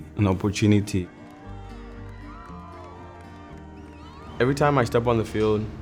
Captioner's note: crowd cheering